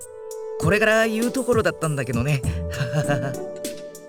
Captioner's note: oh crap laugh